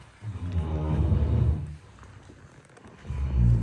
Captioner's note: snoring